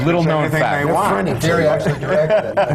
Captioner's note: laughter